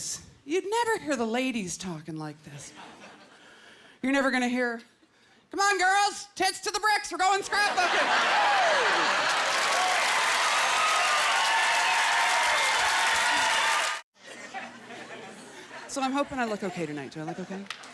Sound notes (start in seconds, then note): 9.5 crowd cheering